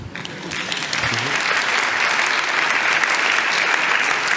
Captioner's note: audience applauds